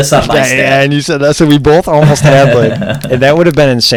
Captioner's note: laughs